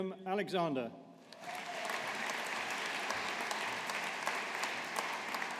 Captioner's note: audience applauding